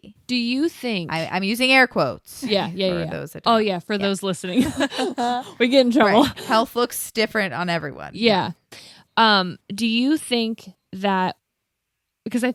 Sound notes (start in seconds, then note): 4.5 laughs